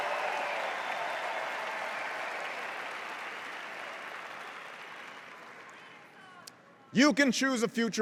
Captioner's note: cheers and applause